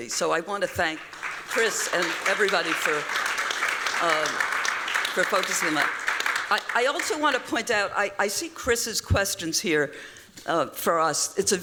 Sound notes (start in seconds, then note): 3.1 applause